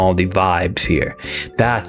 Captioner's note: inhales Oxygen